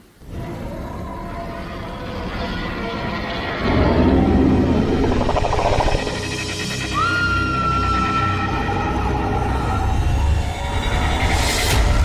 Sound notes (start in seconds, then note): 0.8 dinosaur noises; 6.9 screams